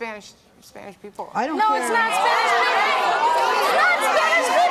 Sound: shouting

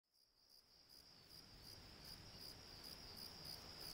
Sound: crickets chirping

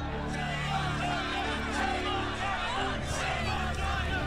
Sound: shouting and chanting

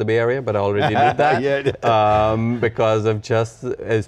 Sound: laughs

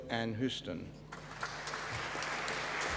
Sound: applause

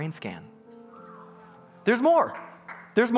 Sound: congregants bustling and clapping

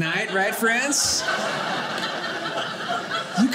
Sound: audience laughing

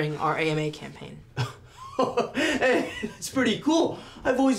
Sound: laughs

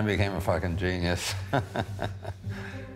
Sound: laughs

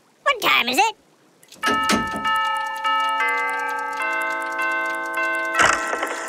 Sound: bells ringing

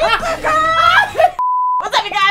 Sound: beep sound

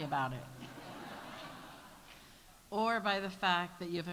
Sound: audience laughs

